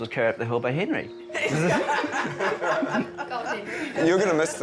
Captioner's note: all laughing